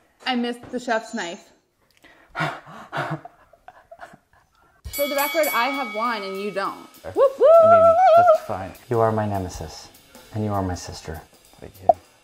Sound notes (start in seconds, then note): 2.3 laughs; 4.9 bell rings